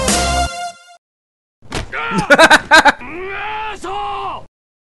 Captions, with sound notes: - Ahh. (laughing) Asshole!